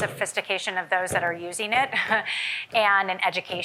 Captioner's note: chuckles